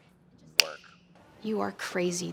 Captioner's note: snaps fingers